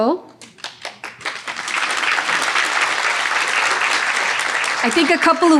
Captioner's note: audience applauding